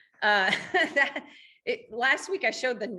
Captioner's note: laughing